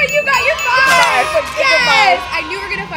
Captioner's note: crowd cheering